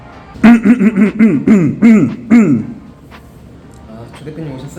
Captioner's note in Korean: 꼰대스킬 ‘헛기침’시전